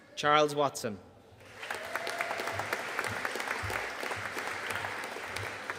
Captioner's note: audience applauding